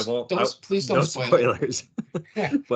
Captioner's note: laughing